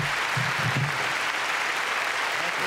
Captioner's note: applause continue